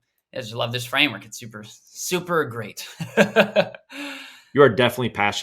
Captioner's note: laughs